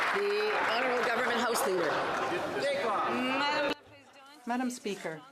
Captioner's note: some Applause